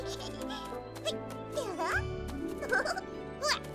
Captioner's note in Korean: 웃음소리; 뛰면서 웃음